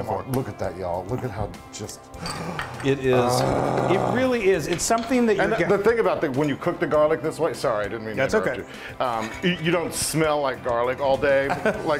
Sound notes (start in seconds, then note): 2.2 gasps and moans